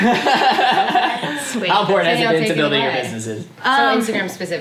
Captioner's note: all laugh